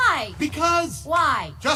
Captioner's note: As Bo Peep